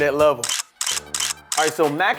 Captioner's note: camera clicks